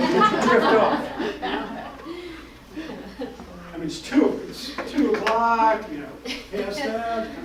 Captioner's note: laughter and indistinguishable speech